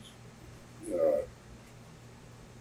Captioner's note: laughs